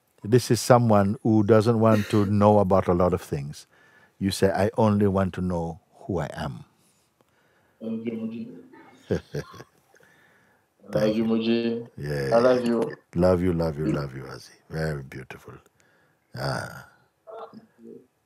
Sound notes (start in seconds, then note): 9.0 Mooji lacht